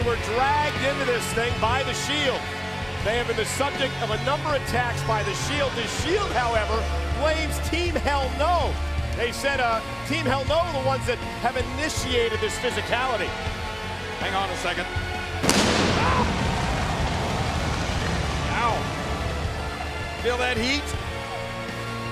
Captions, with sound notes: were dragged into this thing by The Shield. They have been the subject of a number attacks by The Shield. The Shield, however, blames Team Hell No. They said Team Hell No was the ones that have initiated this physicality. Hang on a second. (flames exploding) Whoa! Wow, feel that heat?